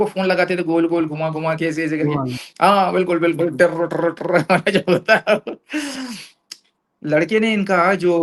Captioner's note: laughter